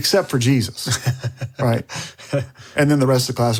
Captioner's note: laughs